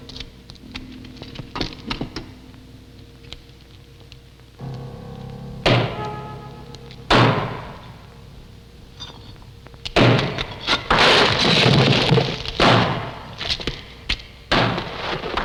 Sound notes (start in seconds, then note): 5.5 thudding; 12.0 rocks crumbling